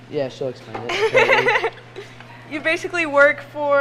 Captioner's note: laughs